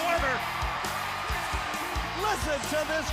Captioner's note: crowd cheering